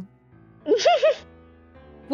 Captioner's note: laughs